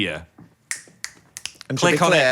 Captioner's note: Dan snapping his fingers